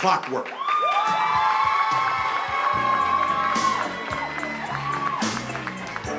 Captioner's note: applause